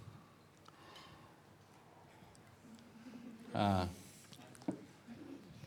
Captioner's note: he pauses